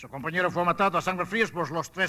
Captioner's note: speaking Spanish